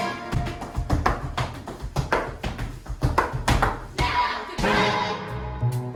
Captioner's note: tap dancing